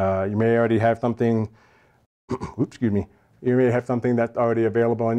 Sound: cough

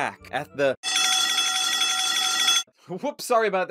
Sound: TF2 alarm bell ringing

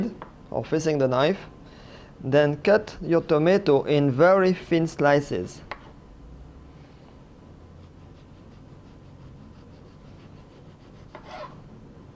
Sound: slicing sound

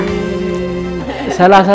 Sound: laughter

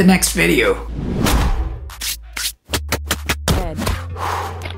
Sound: air swoosh effect

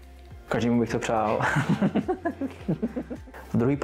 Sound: laugh

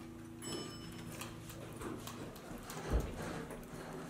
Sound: elevator dings

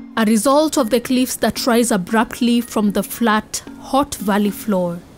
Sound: blustery wind blows

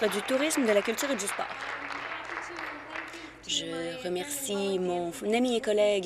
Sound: applause

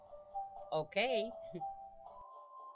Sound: small chuckle

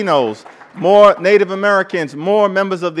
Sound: applause

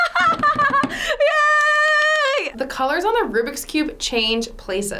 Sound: smacking table; clapping

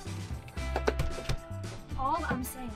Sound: door clatters shut

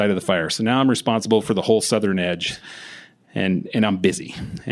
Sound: none

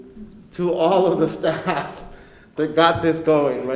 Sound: laughs

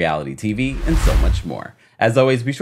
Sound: swooshing

